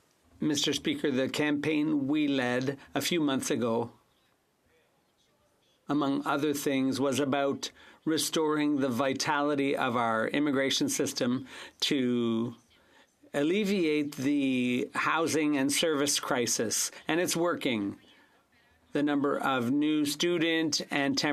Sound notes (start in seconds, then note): 5.1 speaking French